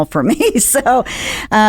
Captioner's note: laughs